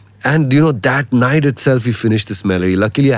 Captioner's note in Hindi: नाक से की जाने वाली आवाज़